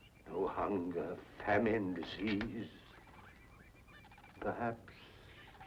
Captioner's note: none